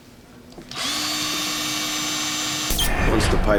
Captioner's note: drill hums